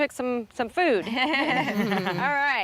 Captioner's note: laughter